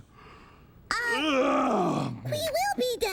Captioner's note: yawns